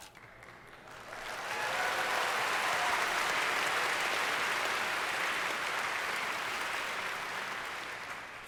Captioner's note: audience cheers